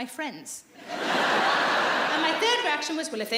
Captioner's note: laughing